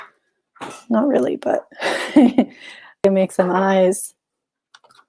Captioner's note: chuckles